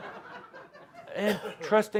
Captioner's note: laughter